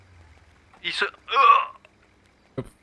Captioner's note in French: il crie